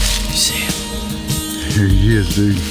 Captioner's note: whispering